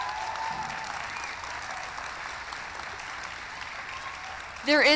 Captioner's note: applause; cheering